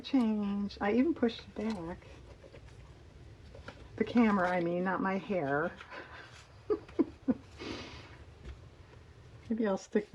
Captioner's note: laughs